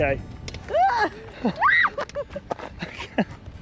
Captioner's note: screams